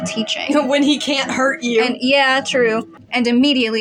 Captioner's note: chuckle